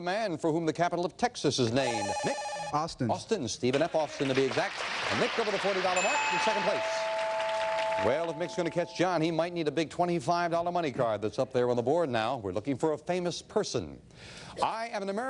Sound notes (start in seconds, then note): 4.2 bell ringing